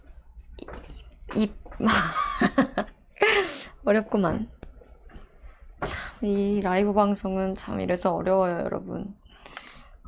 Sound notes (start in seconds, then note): 1.9 laughing